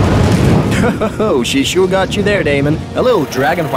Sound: chuckles

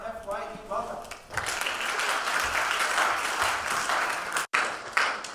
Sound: applause

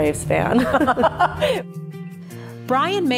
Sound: laughs

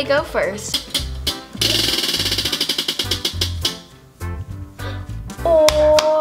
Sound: lively music; wheel spinning

